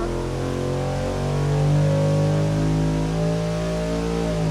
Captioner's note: engine revving